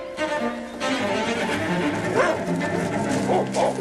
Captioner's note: barking